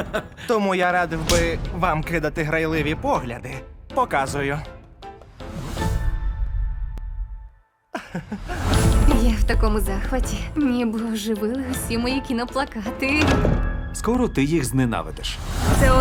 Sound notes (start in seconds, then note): 7.9 chuckles